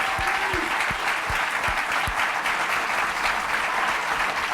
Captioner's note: applause